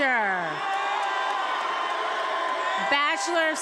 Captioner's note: attendees applauding and cheering